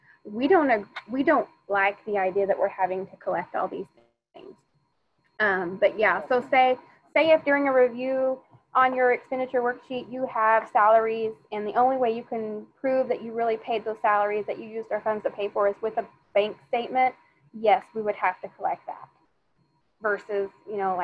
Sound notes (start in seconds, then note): none